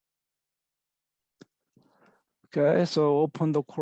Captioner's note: pause